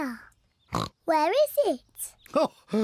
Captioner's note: oinks